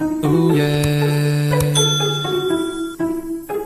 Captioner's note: bright plucked string music; mouse clicking; bell ringing